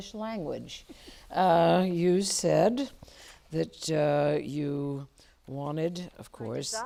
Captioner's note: chuckle